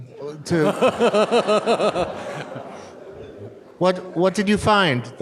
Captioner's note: audience laughs